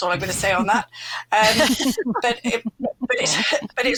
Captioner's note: laughter